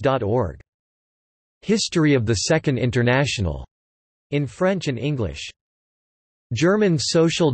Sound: in French and English

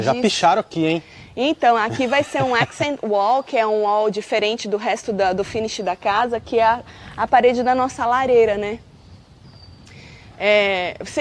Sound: chuckles

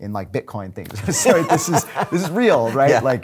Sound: laughing

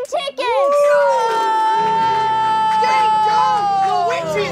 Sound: all cheering

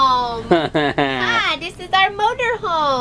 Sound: laughs

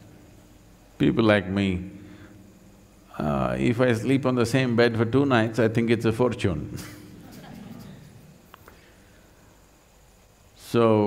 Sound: laughter

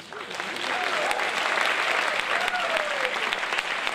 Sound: applause

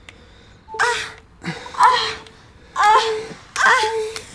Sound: gasping loudly

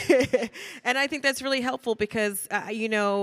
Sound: laughs

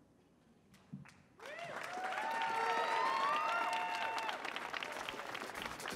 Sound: audience cheering

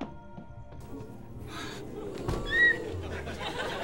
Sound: gasping

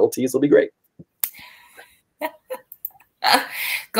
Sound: laughter

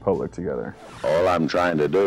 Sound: record scratch

